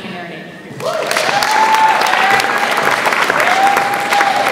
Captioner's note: audience applauds